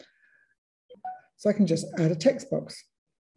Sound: phone text tone

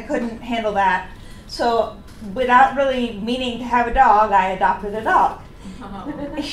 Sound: audience laughs

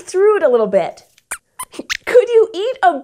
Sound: Squeaks suggests a silly idea

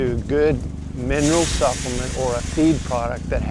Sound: feed scatters

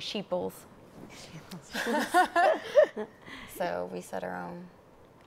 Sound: laugh

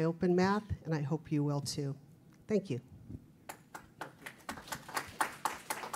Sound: applause

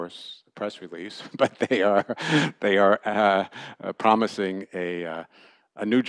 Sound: laughter

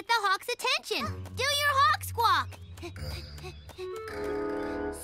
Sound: panting

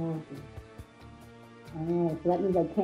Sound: woman2 speaking

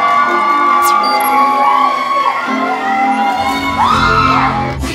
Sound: busking performance begins with a lot of cheers from the audience

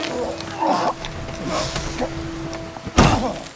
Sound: grunting

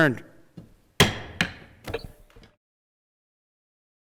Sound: gavel bangs

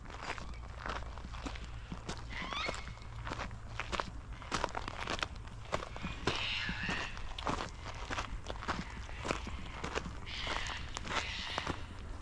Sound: gravel crunching

